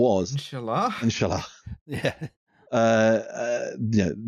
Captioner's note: laughs